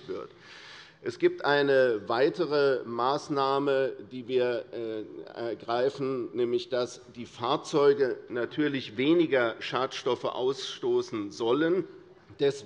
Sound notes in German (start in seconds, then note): none